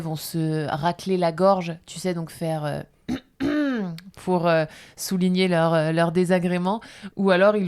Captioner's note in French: raclement de gorge